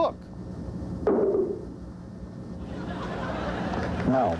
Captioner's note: thudding